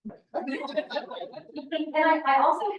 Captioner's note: audience laughing